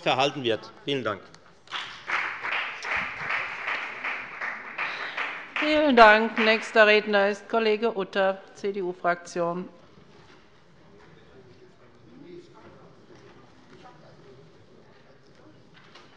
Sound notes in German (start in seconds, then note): 1.6 Beifall bei der FDP